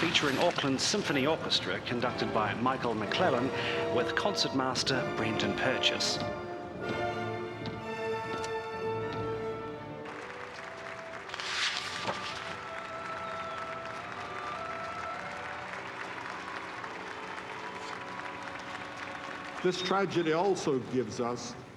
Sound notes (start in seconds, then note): 10.3 many people applauding and cheering